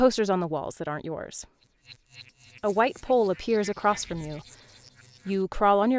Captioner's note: glitch noises